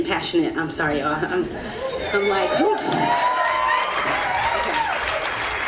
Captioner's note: audience applauding